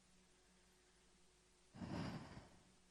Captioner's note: sighs